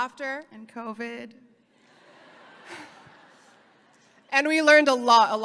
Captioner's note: audience laughing